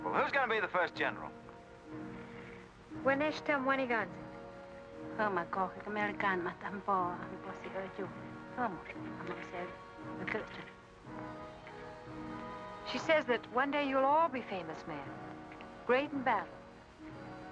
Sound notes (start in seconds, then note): 3.0 Kit speaking in Native American language; 5.1 woman speaking in Native American language